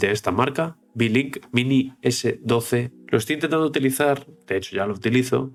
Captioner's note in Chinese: 英语